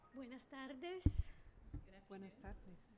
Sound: speaking spanish

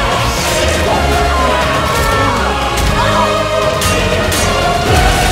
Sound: Brienne screaming

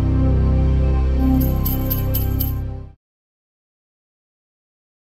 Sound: ominous music; bells jingle

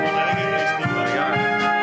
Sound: passerby speaking in Italian

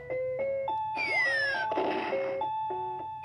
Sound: bomb explodes

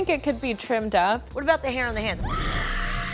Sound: screaming and bell ringing

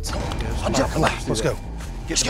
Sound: whispering

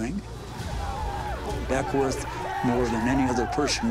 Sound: war sounds

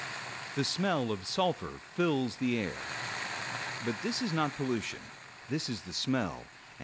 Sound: nat sound pop

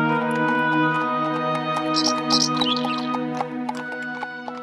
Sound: horseshoes clacking

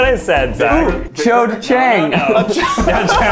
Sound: laughs

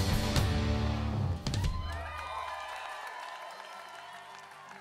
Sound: audience cheering

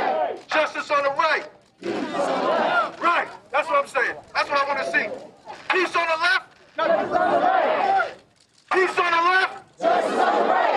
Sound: crowd chanting

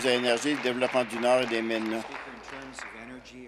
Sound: applause

